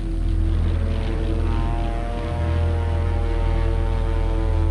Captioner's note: engine whirring